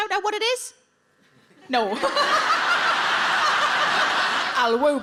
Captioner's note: laughs; audience laughs